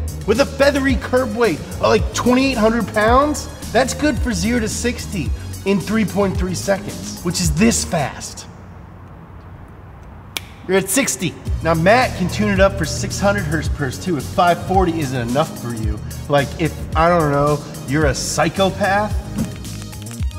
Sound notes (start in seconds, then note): 10.3 finger click